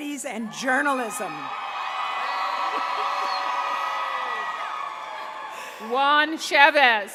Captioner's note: cheering